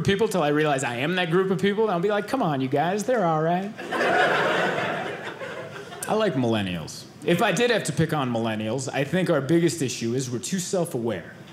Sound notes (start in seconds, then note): 3.8 audience laughing